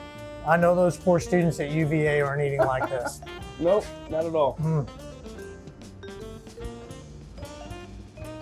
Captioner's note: laughing